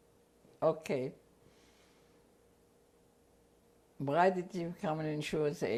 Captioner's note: pauses for 3 seconds